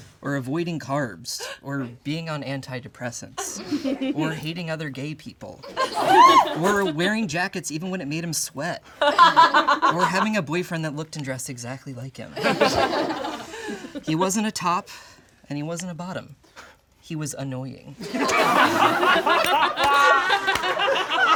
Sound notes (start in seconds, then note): 12.4 all laugh; 18.0 all laugh